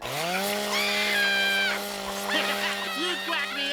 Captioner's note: screaming